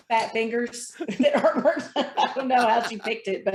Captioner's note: chuckling